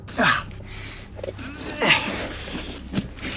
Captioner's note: grunting